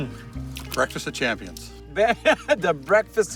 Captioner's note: laughing